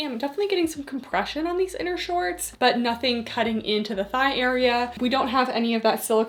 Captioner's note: none